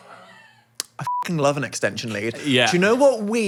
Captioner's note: beep